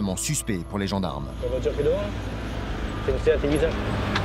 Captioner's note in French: audio parlé en français